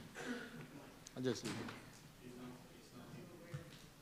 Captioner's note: clears throat